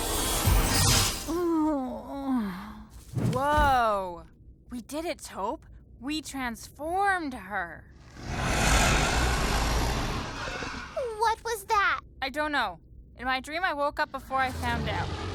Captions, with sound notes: [GROANS] WHOA. WE DID IT, TOP. WE TRANSFORMED HER. [GROWLING] WHAT WAS THAT? I DON'T KNOW. IN MY DREAM, I WOKE UP BEFORE I FOUND OUT.